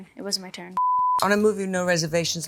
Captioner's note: screen beeping